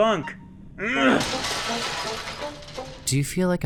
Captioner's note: grunt; clutter clatter; grunt